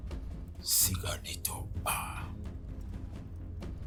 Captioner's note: speaking Cherokee language